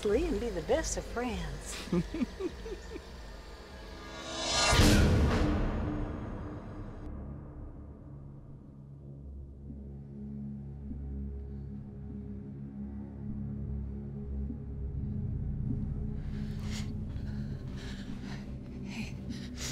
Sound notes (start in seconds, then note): 1.7 chuckles; 4.2 air whooshing; 7.3 soft suspense music